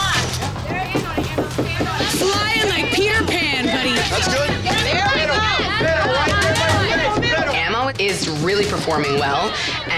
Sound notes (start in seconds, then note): 4.4 crowd cheering